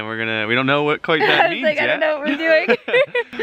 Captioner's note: laughs